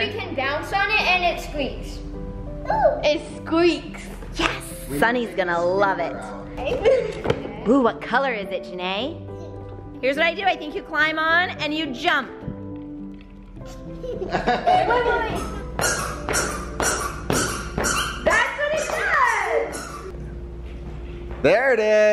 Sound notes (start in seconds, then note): 13.6 laughing; 15.3 squeaking